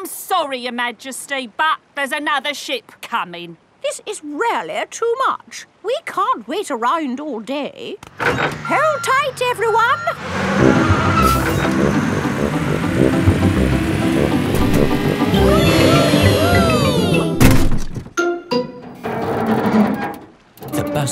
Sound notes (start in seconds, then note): 10.0 bus beeping; 15.2 all cheering; 18.9 creaking